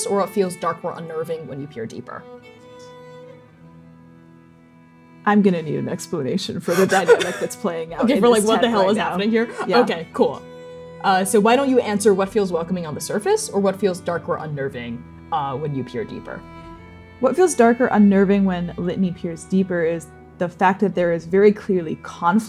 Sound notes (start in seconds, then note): 6.6 laughing